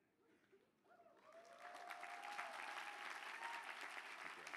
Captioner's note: applause